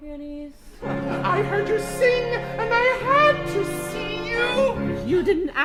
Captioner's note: client in falsetto